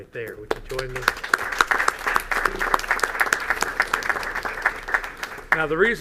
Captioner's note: applause